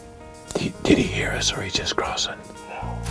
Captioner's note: whispering